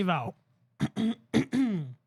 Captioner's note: clears Throat